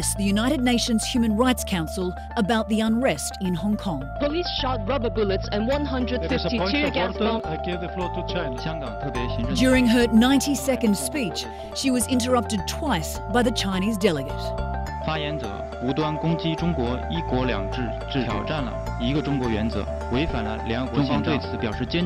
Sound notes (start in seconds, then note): 8.9 Mandarin speech; 15.1 Mandarin speech